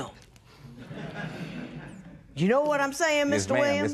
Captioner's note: laughter